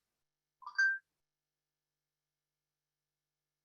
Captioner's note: phone beep